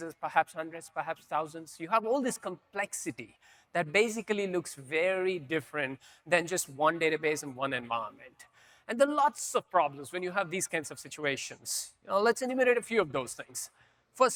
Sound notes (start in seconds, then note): none